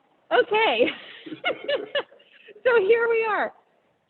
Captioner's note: laughs